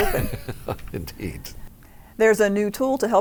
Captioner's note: laughs